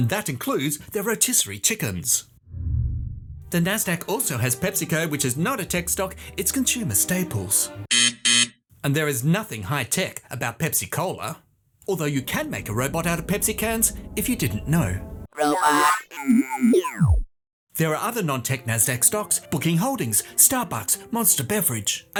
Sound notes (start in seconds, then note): 7.9 buzzer; 15.3 robot noises